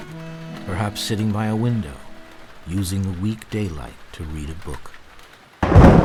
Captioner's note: thunder crashing; intense music